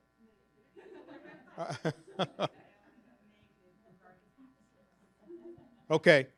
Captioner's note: people laughing